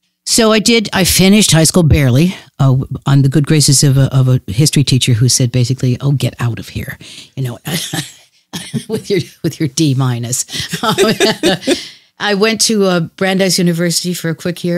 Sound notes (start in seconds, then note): 10.5 laughs